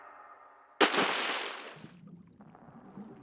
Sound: splash

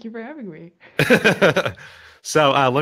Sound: both laughing

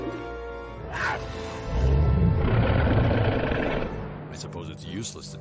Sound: cheetah growling

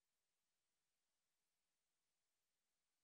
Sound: none

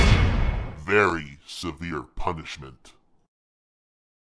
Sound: deep voice

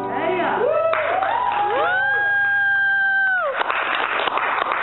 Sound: applause and cheers

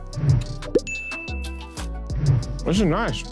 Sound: tick dinging

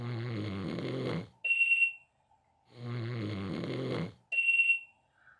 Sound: snoring

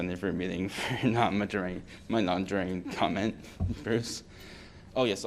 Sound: laughter

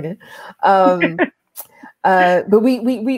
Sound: laughs

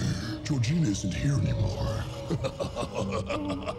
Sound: deep voice; maniacal laugh

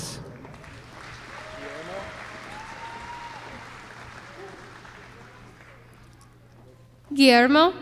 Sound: applause

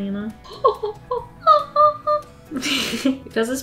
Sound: excited noises, laughs

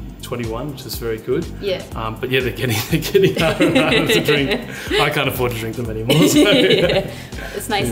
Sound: laughs

